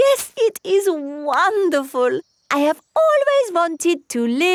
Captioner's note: laughs